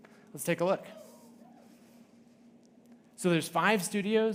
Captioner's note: audience cheering